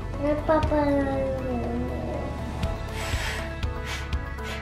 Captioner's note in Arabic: يتمتم